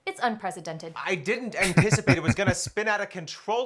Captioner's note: laughing